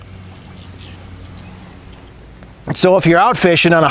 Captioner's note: nature sounds